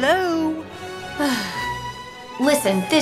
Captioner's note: sigh